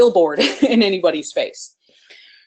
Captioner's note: laughs